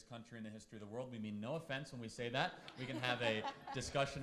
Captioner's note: laughs